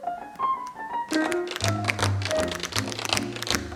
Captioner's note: tapping